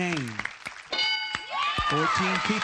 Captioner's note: ding